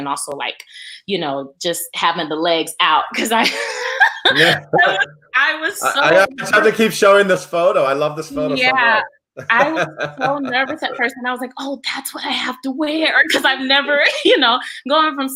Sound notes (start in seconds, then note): 3.1 laughs; 9.4 laughs